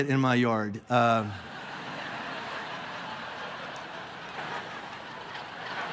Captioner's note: congregation laughing